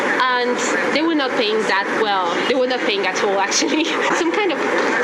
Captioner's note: laugh